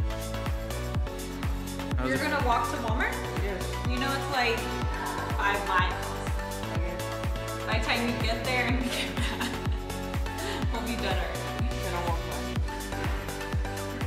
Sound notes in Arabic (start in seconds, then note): 8.8 يضحك